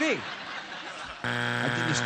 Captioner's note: buzzer